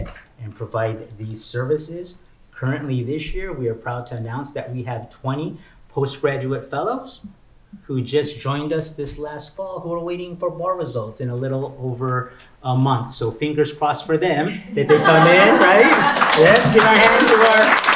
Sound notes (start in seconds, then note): 15.5 applause